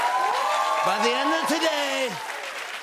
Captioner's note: cheers and applause; as Trump